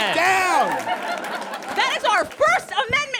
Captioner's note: audience cheers and applauds